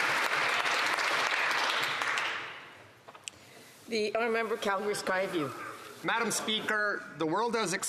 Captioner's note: some Applause